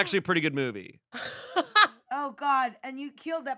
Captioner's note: laughs